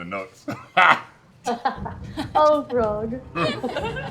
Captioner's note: laughs